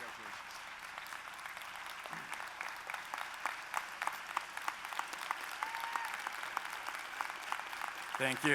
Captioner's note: applause